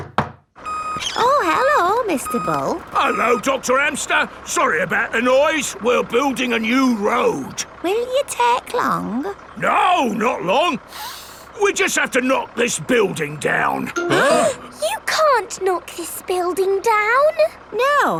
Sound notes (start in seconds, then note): 0.0 knocking at door; 10.9 sniffs; 14.1 all gasping